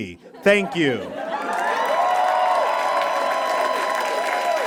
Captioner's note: audience cheers and applauds